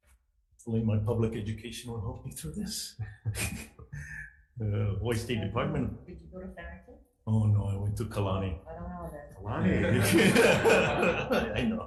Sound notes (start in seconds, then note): 3.0 laughing; 9.7 everyone laughing